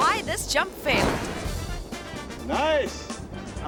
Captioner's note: parachute swooshing; bright music